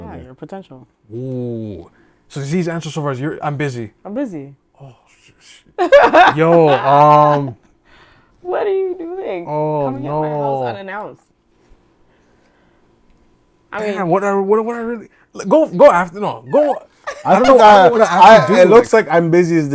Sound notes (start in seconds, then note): 5.8 laughing; 14.6 stuttering